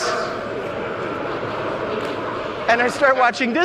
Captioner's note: audience laughing